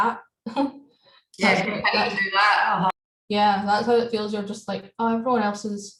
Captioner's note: laughs